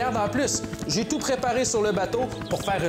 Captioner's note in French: none